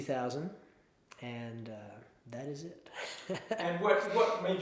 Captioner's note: chuckles